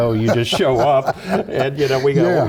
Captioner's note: laugh